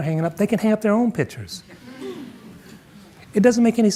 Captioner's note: audience murmuring